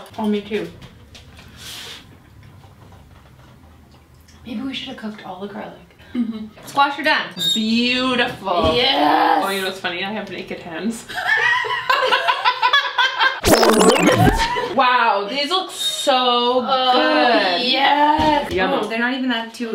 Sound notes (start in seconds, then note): 12.0 laughs; 13.4 tape rewinding